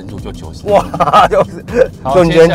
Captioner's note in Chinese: 哇哈哈哈